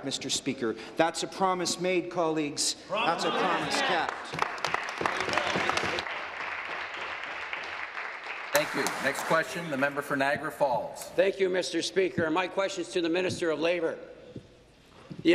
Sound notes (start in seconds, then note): 7.8 applause